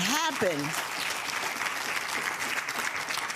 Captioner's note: clapping